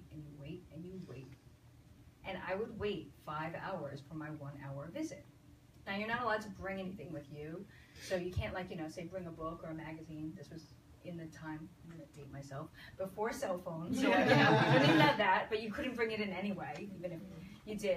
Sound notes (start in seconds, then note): 14.0 audience laughs